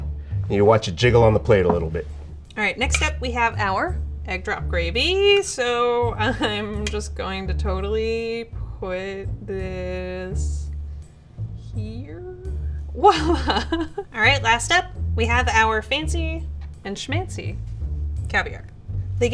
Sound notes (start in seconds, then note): 13.4 laughing